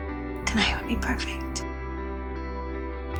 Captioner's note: voiceover